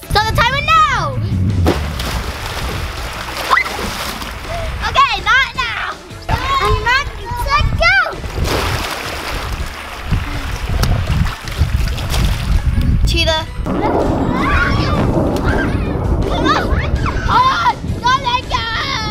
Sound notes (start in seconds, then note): 1.9 water sloshing; 8.8 water sloshes